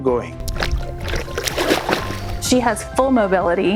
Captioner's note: water splashing